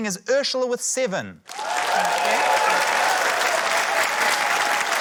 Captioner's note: cheering, applause